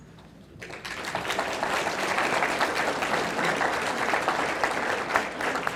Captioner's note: audience applauding